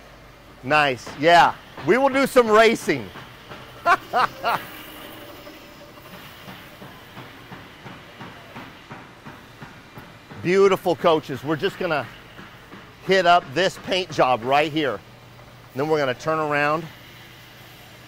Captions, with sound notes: Nice. Yeah. We will do some racing. [Laughs] Beautiful coaches. We're just going to hit up this paint job right here. And then we're going to turn around.